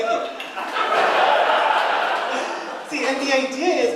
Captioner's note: audience laughing and cheering; audience laughing